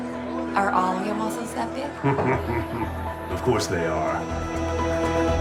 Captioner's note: chuckles